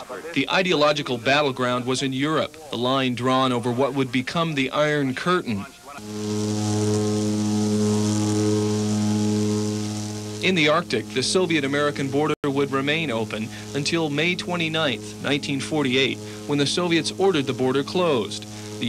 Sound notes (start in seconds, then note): 6.1 plane propellers buzzing